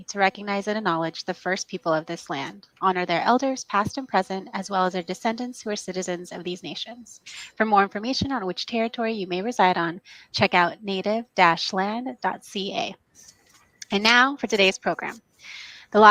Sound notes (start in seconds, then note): none